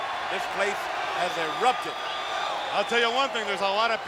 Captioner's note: crowd cheering